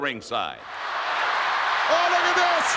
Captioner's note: crowd roars and applauds